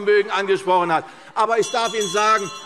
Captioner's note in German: Anhaltende Unruhe – Glockenzeichen